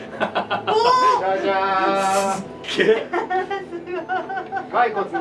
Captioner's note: laughter